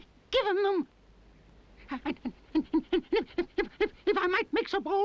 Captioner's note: fox stammering